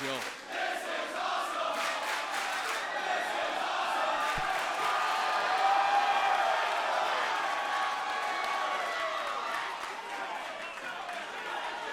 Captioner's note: crowd cheering